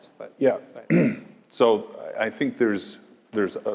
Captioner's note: cough